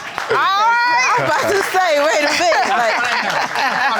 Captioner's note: laughter and applause